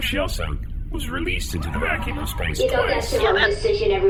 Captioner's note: rushed, defensive